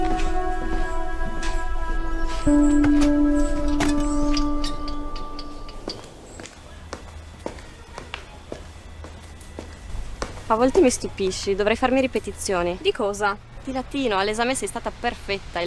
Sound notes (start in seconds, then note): 0.0 calm music; 6.5 firm steps